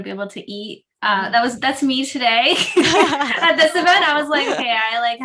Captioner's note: laughing